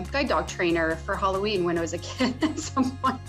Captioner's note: laughing